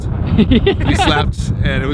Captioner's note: laughs